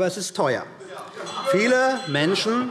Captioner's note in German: Unruhe – Glockenzeichen